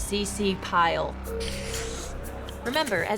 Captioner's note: ominous music; marker scratching